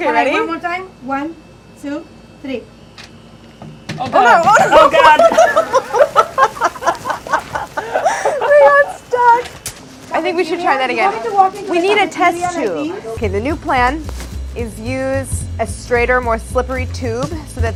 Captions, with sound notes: - Okay ready? - One more time? One, two, three. - Oh god! - Oh no! - Oh god! [laughing] - It got stuck. I think we should try that again. We need a test tube. Okay, the new plan is use a straighter, more slippery tube